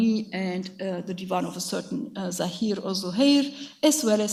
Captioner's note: speaks in a foreign language